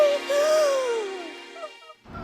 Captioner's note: horrified gasp